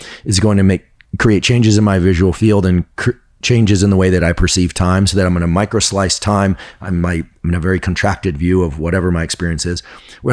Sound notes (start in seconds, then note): none